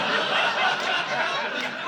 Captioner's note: laughter